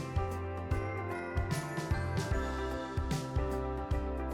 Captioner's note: chimes ringing